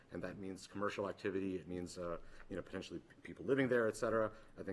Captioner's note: none